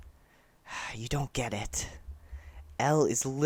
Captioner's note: sigh